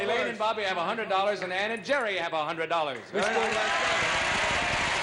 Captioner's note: cheers and applause